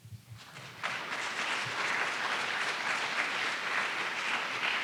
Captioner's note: audience applauding